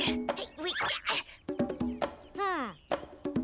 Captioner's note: Milo grunts